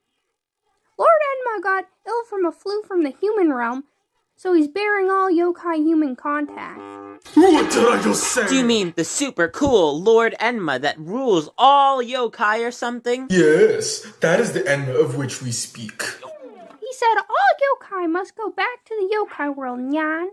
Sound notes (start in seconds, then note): 11.5 sarcastically; 15.1 mocking Nate